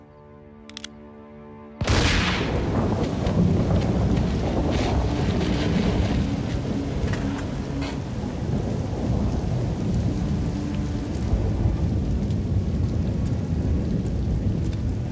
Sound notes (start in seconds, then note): 1.8 gun %*#; 1.8 gunshot; 3.1 thunder rumbling